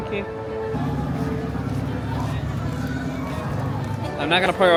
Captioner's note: motor running